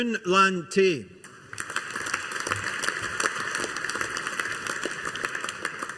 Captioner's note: audience applauding